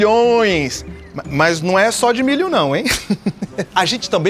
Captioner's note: Chico laughs